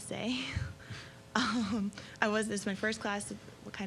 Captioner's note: laughing